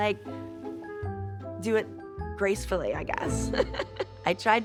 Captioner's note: laughs